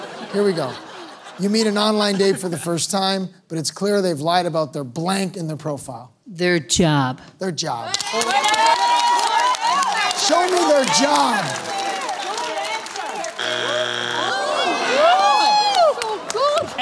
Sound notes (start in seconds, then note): 8.2 cheering; 13.2 audience groans; 13.2 buzzer sounds